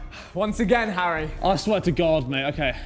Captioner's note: sighs